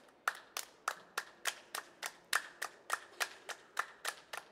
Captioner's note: hands clapping